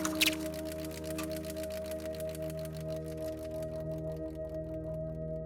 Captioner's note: film reel clicking